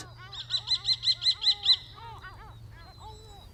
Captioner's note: birds twittering